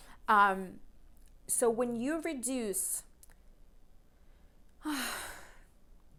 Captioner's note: sighs